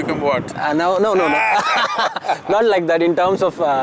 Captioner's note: laughter